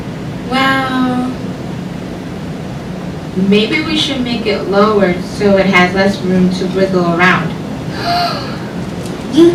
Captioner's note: gasp